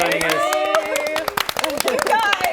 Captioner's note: clapping